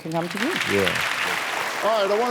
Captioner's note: audience applauding